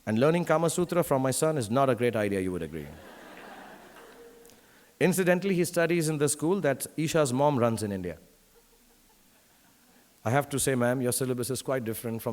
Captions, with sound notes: And learning Kama Sutra from my son is not a great idea, you would agree. (audience laughing) Incidentally, he studies in the school that Isha's mom runs in India. I have to say, Ma'm, your syllabus is quite different